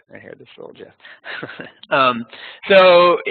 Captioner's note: chuckling